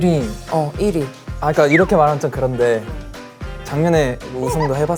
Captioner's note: hesitant